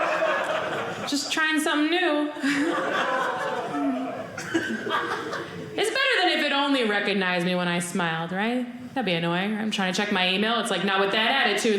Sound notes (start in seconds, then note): 2.4 audience laughing